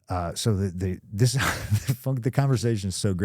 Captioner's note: CM Punk chuckles